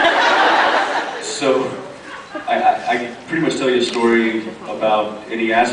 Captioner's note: laughs